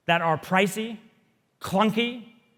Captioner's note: none